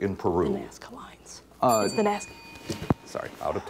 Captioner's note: bell rings